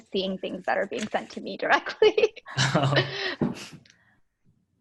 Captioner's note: laughing